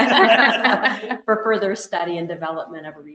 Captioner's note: laughter